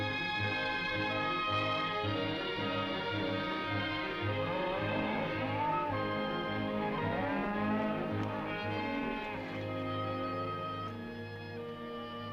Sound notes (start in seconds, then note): 4.5 cows mooing